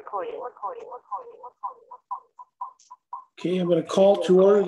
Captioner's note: computer voice echoing